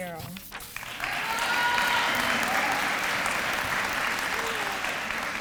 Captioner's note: applause